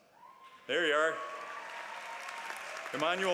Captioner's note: applause